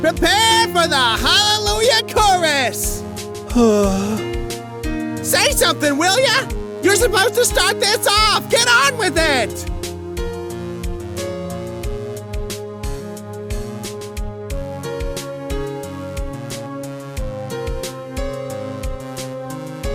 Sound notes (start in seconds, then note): 3.5 sigh